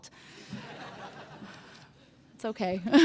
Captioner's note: laughter